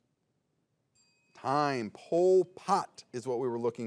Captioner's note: bell dings